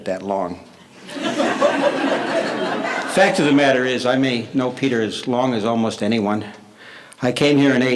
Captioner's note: laughter